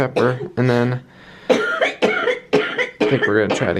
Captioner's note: coughing